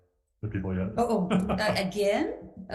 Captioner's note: laughs